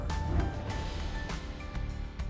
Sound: gentle lively music; logo swooshing

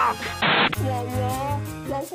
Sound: crsshh

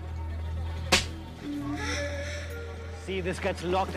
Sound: smacks

